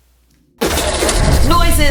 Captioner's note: explosion